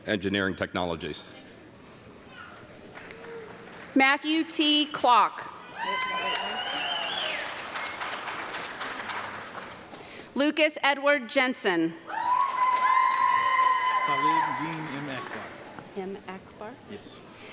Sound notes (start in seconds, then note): 5.7 audience clapping and cheering; 12.1 audience clapping and screaming